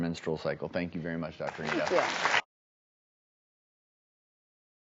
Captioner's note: hands clapping